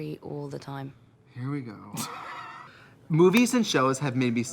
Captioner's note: Katya laughs; sighs